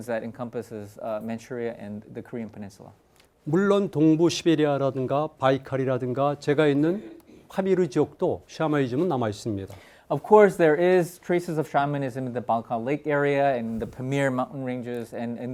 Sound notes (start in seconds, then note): 3.7 speaking in Korean